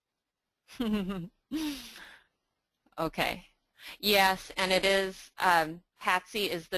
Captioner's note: laughing